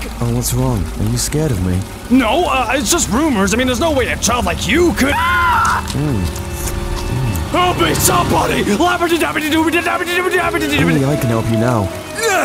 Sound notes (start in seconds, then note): 4.9 screaming and munching; 12.2 grunts